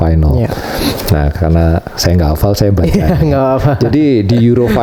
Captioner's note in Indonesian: tertawa